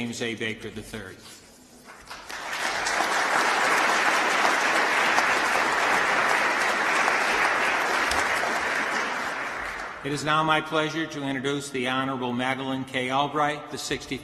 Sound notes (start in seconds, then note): 3.8 applause